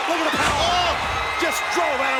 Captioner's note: commentators exclaim